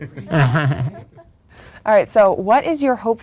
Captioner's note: laughs